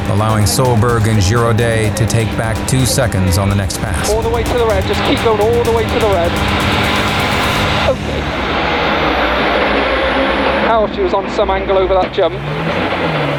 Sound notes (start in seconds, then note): 6.5 motor revving